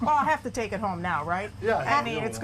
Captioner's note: laughter